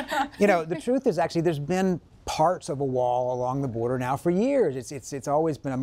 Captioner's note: laughter